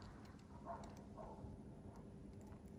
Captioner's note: dog barking